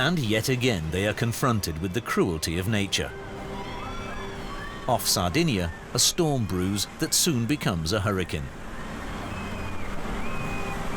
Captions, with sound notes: And yet again they are confronted with the cruelty of nature. [children screaming] Off Sardinia, a storm brews that soon becomes a hurricane.